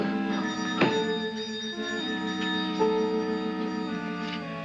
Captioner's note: ominous music; doorbell rings; ominous music